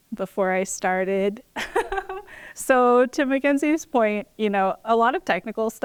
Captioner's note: laughter